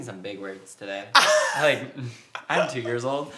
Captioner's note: laughs